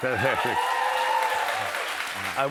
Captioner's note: cheers and applause